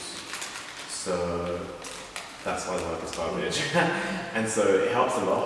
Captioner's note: laughs